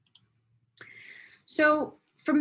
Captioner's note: mouse clicking